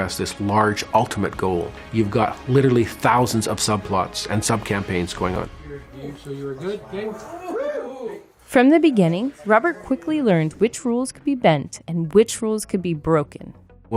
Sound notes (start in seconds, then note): 5.9 people talking